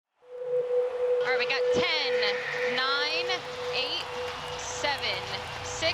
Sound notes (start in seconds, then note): 1.4 fans cheering